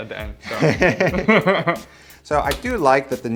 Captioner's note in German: lachen